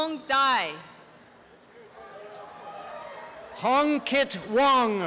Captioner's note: applause and cheering